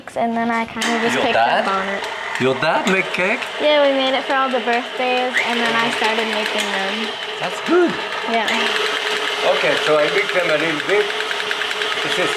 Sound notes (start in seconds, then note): 8.6 mixer whirring